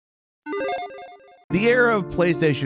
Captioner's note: game effect blips